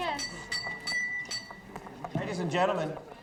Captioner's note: glass tinkling